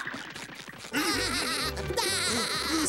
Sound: laughing

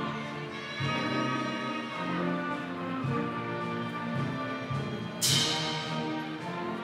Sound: audience cheering continues

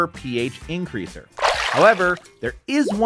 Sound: water splashing

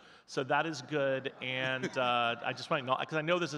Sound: chuckles

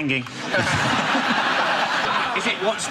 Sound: audience laughs

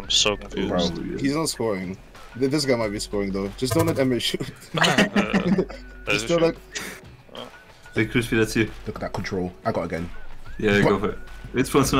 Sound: excited noises

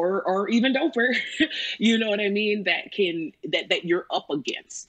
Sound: laughs

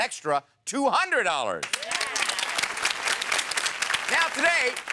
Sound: audience applauds

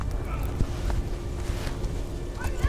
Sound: horses gallop in the distance

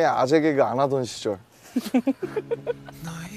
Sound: crack up

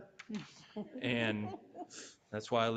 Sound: chuckling

